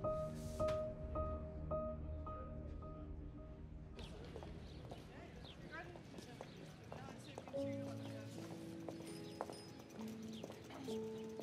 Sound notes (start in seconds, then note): 3.9 birds tweet; 4.0 background chatter; 7.2 peaceful piano music